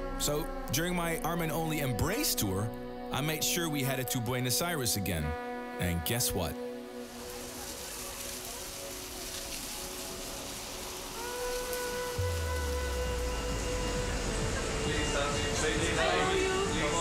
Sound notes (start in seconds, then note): 6.6 rain splashing; 11.5 laid back dance music